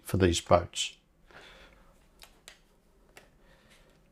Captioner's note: silence